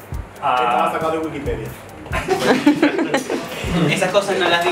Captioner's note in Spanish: risas